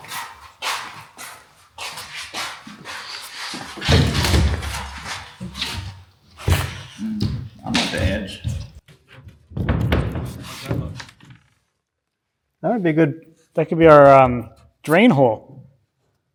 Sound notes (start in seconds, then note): 0.0 feet shuffling